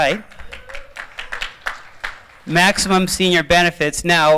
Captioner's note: applause